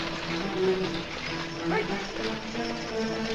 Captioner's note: driver Shouting Commands